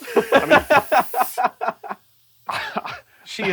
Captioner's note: belly laughs